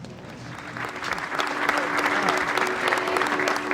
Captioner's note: applause